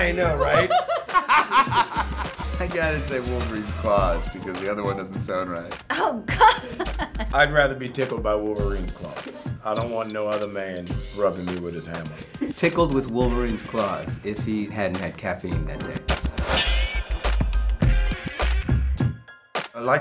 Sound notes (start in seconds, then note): 0.1 laughter; 16.5 upbeat music